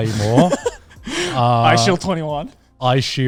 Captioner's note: laughing